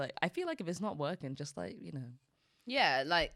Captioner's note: none